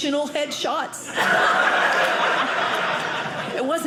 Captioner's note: audience laughing